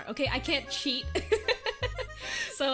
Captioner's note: laughs